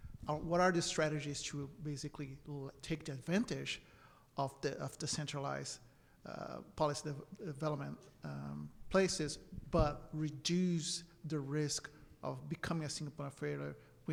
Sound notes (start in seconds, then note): none